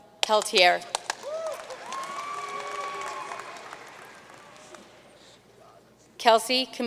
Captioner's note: audience cheering and applauding